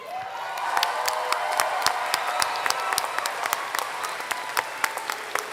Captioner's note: applause